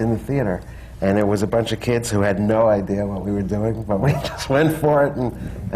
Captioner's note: laughs